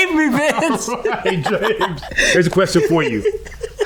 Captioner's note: laughing